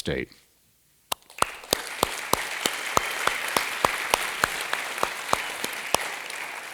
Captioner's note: applause